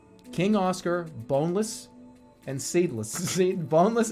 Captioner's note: giggling